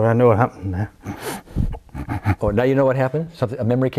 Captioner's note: cries